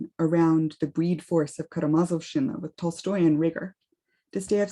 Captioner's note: speaks russian